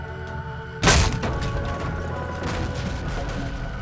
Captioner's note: trap activation sound